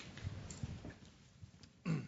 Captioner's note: cough